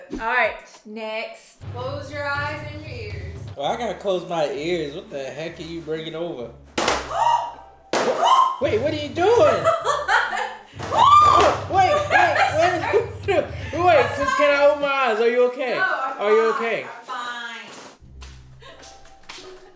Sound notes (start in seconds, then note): 6.9 thudding and banging; 7.1 yelping; 9.8 laughs and shrieks; 11.8 laughs